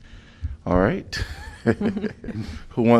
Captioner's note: laughter